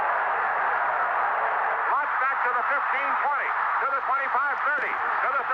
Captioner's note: crowd cheering